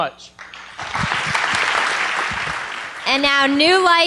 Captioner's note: applause